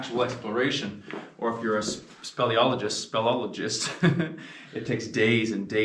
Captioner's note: laughs